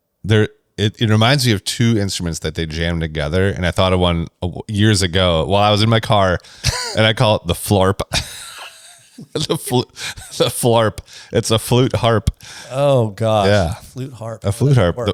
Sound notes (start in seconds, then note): 6.6 laughs